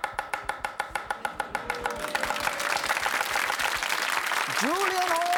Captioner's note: audience oohs and claps